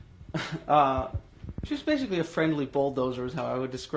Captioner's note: laughs